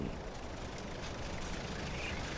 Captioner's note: truck rattling